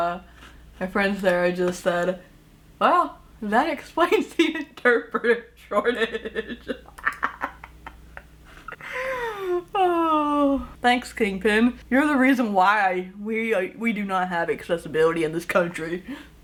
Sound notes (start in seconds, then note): 5.7 laughing hard; 8.5 sighs